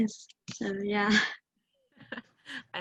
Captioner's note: laughs